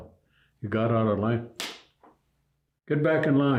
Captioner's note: slap ringing out